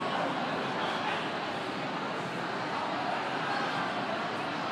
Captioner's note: people chattering